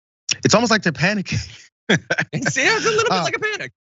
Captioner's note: laugh